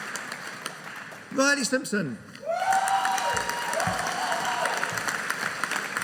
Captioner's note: audience cheering